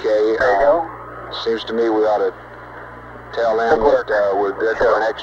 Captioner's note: mission Control Audio